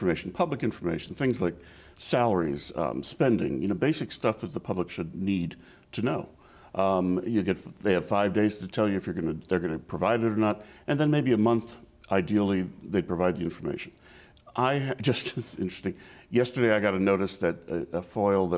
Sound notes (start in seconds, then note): 14.8 chuckles